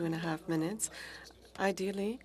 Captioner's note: speaking french